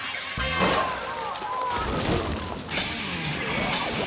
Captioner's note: bike crashes; grunts; intense rock music